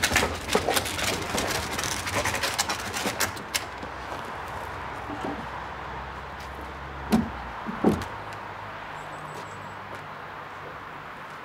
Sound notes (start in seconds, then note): 4.2 traffic noise